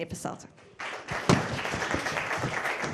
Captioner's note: applause